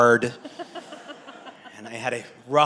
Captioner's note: all laugh